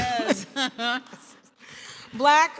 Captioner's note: laughs